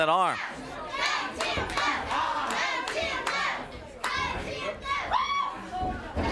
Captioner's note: crowd chants "Go, Tim, go"